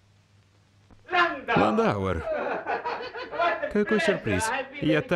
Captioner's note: laughing